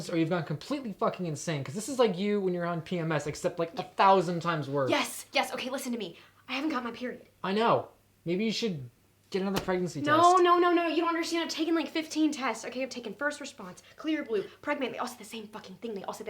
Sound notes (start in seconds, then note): none